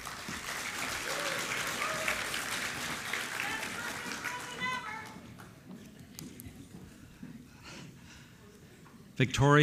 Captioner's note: applause